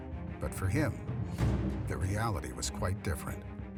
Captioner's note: Chavez Jr. speaking Spanish